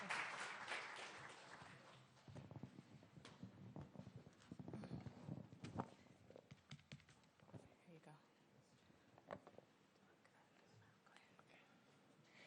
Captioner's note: applause